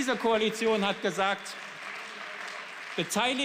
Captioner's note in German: Beifall